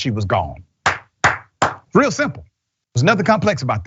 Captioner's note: applause